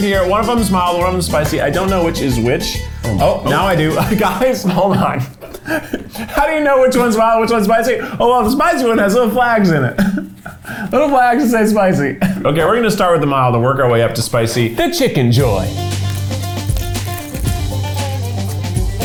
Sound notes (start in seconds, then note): 9.5 laughs; 15.2 upbeat country music